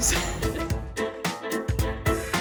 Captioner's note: speaker laughing; cheerful upbeat music